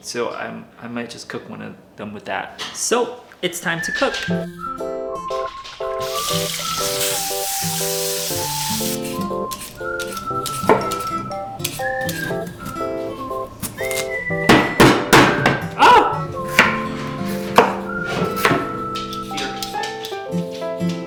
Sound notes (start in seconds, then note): 4.9 light music; 14.1 potato banging; 15.7 exclaims